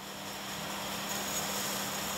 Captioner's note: whirring